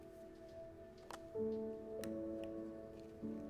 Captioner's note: none